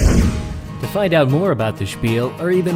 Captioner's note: voiceover